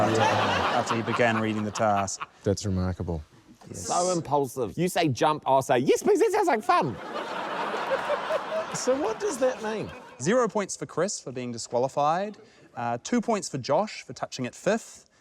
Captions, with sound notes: - Wow. - ...after he began reading the task. - That's remarkable. - So impulsive. You say jump, - I'll say, 'Yes, please, that sounds like fun.' - (LAUGHTER) - So, what does that mean? - Zero points for Chris, for being disqualified. Two points for Josh for touching it fifth.